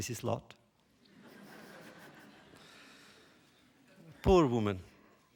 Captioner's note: laughter